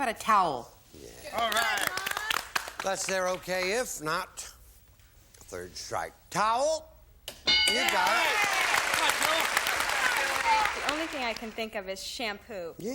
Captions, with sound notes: - How about a towel? - If that's there, okay. If not, third strike. Towel? (bell) (applause) You've got it. - Come on, Jill. - The only thing I can think of is shampoo.